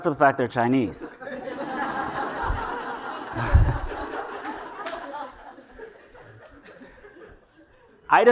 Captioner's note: laugh